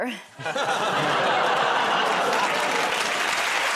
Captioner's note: laughs; audience groans; applause